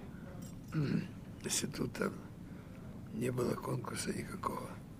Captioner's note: clears throat